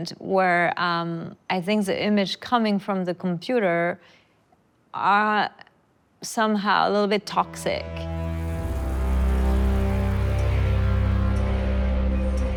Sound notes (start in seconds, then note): 8.5 butter sizzling; 9.7 tense music